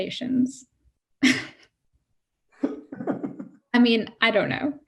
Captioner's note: laughing